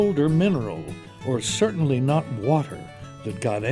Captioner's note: voiceover